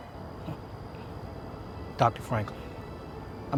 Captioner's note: Serje chuckles